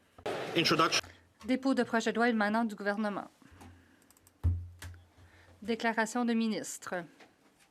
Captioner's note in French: voix de l'interprète